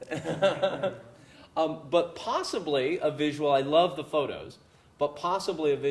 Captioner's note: laugh